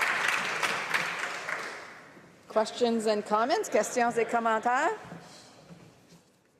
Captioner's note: applause